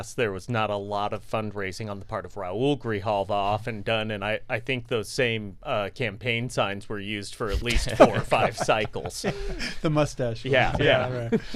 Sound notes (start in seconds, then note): 7.5 laughs